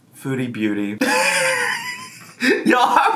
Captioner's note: laughing